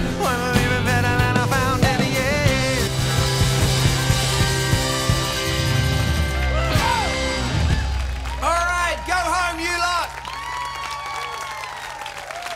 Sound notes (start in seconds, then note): 5.8 audience cheering